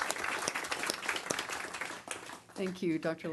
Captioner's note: applause